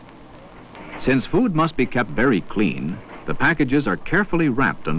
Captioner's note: metal rattling